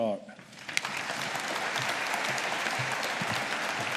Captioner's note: audience applauding